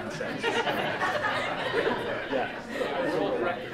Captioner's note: laughter